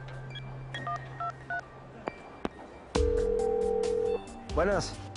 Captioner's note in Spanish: Sonido al marcar